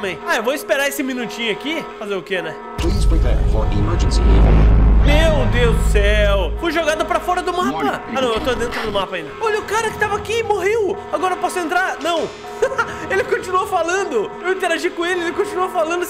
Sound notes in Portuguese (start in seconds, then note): 12.5 risos